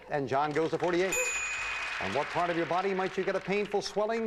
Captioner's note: audience applauding